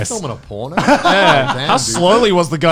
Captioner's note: laughing